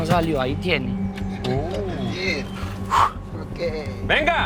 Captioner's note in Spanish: Exclamaciones